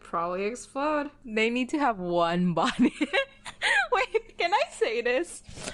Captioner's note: laughs